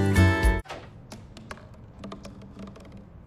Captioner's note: clank, thump, thump